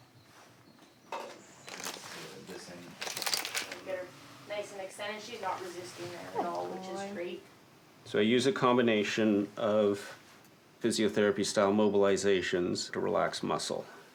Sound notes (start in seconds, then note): 2.9 plastic crunching